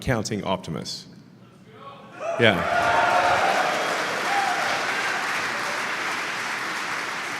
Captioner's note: Applause; 掌声